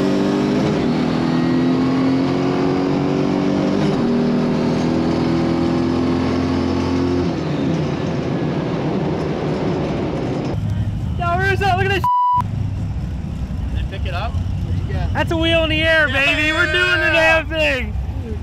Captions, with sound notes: - Look at this (beep). - Then pick it up. - That's a wheel in the air, baby. We're doing the damn thing.